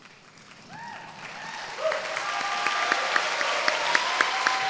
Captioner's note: applause